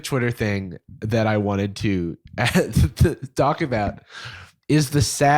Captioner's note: laughs